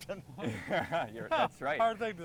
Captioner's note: others laughing